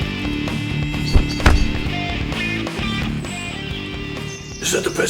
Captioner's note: kick thudding